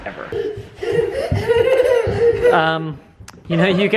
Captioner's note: laughing